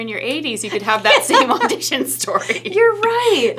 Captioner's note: laughing